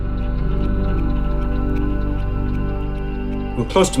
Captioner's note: clock ticking distantly